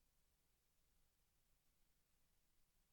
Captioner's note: none